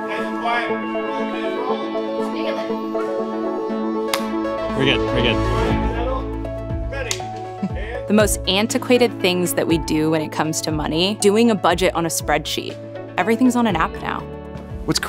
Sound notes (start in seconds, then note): 4.1 hands clapping; 7.1 clapperboard claps